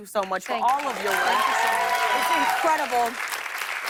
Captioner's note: cheers and applause